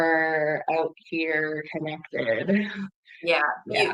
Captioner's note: laughs